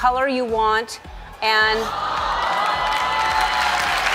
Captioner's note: applause